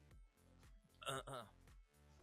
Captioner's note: cough cough